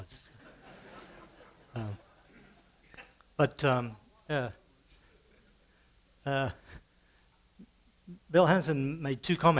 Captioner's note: light laughter